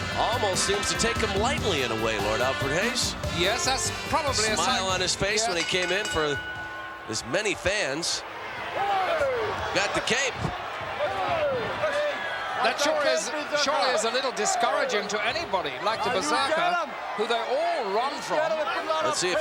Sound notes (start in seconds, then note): 5.9 bell rings